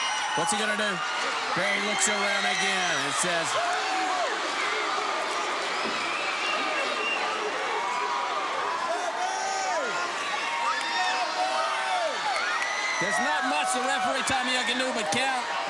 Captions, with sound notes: What's he gonna do? Barry looks around again and says. (blows thudding) (crowd clamoring) There's not much the referee Tommy Young can do but count.